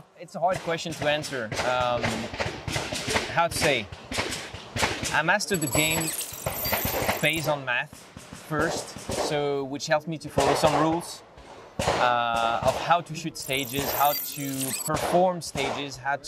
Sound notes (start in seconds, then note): 2.4 gunfire popping